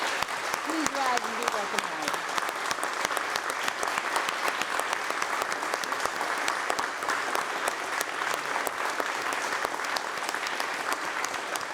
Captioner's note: applause